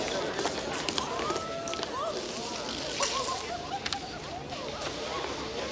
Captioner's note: townsfolk murmur and giggle